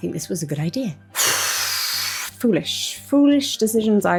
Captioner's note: sighs